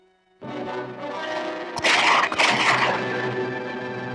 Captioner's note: gun shots ring out!